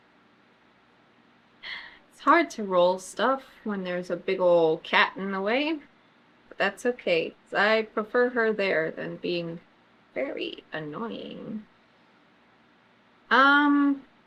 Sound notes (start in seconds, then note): 1.6 sighs